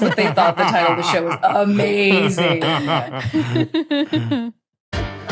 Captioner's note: group giggling